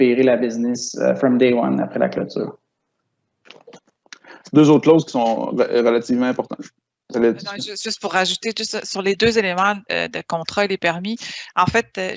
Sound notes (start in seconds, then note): 4.7 speaking in foreign language